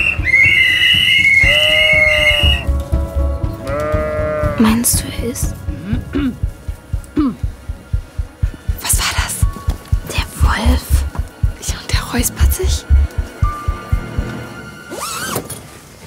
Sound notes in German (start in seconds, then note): 7.1 Räuspern von draußen; 13.1 Unheimliche Musik